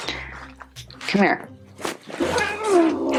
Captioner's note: cat growls